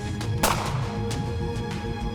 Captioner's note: gun shot